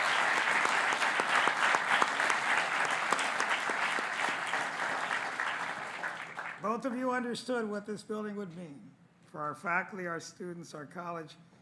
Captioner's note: applause